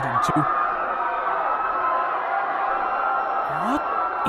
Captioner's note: the crowd screams in horror in background